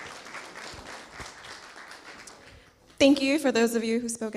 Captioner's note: clapping